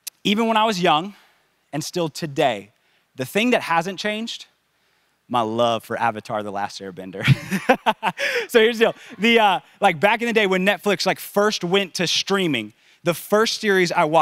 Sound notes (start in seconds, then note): 7.3 laughs